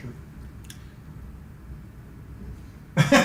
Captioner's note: laughs